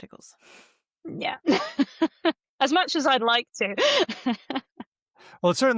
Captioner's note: laughs